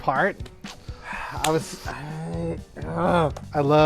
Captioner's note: frustrated sounds